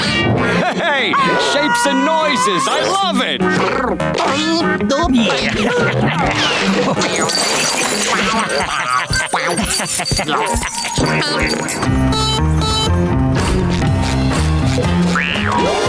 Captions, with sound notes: Hey, shapes and noises! I love it! [laughing] [honking]